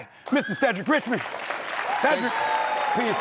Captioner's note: audience applauding